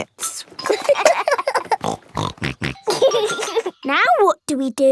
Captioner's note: laughing; snorting